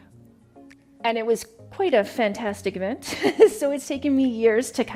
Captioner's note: chuckles